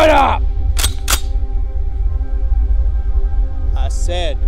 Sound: gun clicks

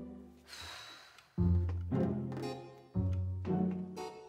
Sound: Dot sighs

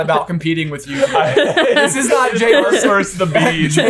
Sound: laughing

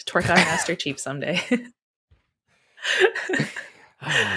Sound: laughing

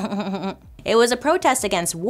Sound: laughs

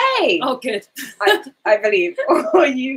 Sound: laughs

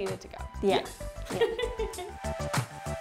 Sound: chuckling; lively music

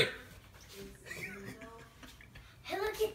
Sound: laughing

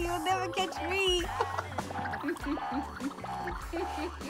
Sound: laughing

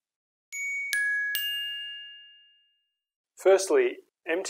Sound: bell chimes

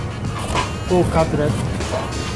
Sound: knife cutting food

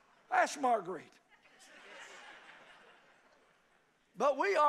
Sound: congregation laughs

